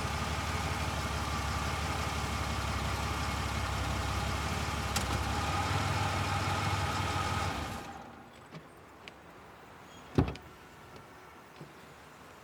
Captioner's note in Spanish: Sonido de motor